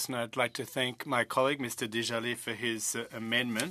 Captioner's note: speaking in French